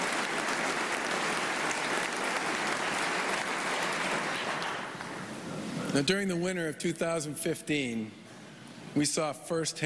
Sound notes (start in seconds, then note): 3.9 applause